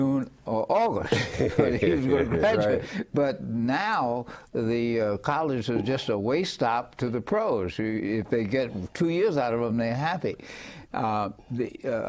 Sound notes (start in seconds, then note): 2.6 laughing